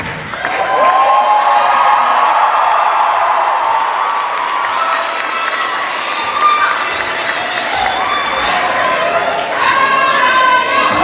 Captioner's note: cheers and applause